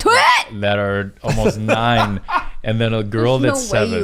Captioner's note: laughs